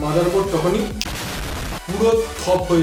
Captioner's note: boom